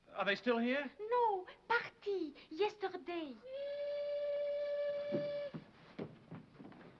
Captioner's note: horn blowing